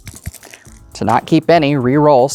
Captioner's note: dice rolling; dice rattling